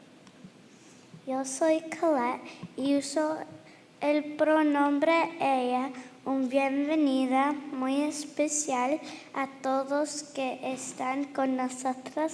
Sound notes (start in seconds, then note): 1.3 girl speaking in foreign language